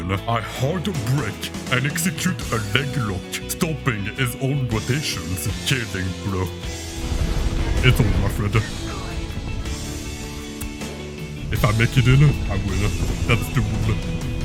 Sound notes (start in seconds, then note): 10.6 kiss